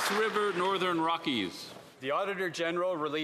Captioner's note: some Applause